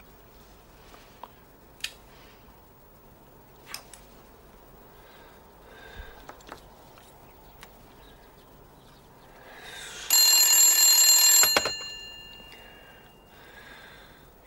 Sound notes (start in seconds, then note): 10.0 the phone is ringing